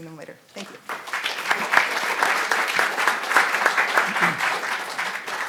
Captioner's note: audience applauding